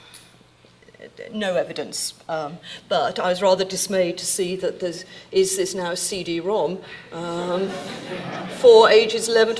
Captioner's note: audience laughing